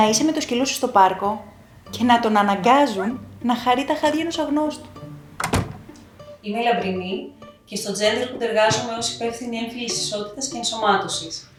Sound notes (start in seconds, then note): 5.3 door shut